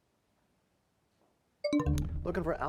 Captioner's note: bell chimes, time expires